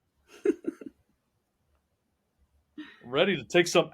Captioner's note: chuckles